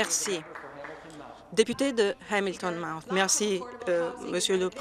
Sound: some Applause

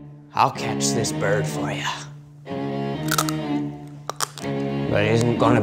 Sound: crunches dry pasta

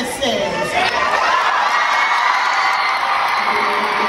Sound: crowd cheering

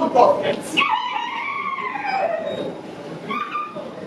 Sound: an eerie river bird call out suddenly out of the dark night

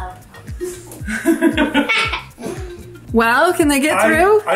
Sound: laugh

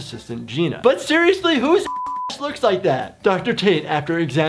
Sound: beep

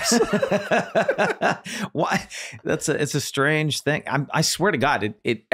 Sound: everyone laughing

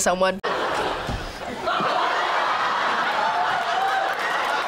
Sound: audience laughs

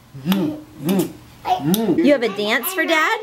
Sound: kisses

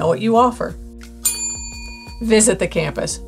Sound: bell rings

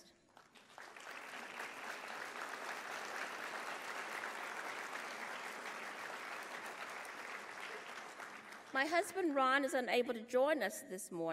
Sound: applause

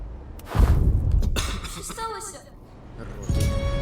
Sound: coughs

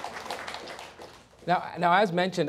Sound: applause

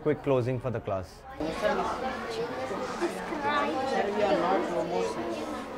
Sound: students talking

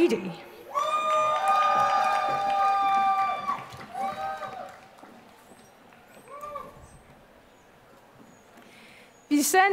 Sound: applause

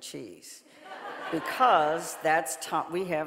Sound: audience laughing

